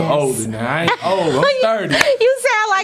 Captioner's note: Mary laughing